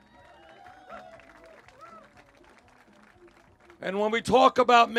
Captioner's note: cheers